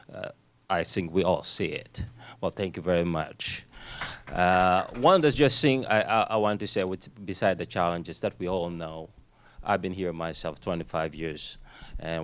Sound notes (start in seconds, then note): 4.4 applause